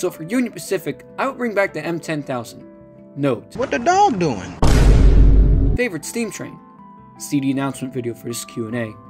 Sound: boom sfx

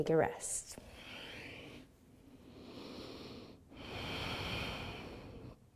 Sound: breathing

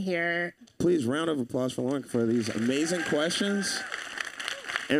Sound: audience cheering

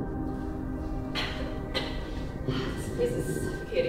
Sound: coughs

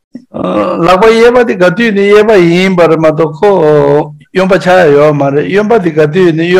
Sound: speaking in foreign language

